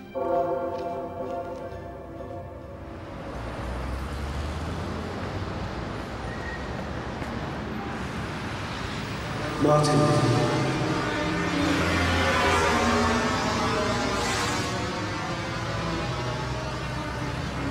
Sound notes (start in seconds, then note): 0.0 haunting orchestral music; 3.6 traffic rumbling quietly; 11.1 intense eerie music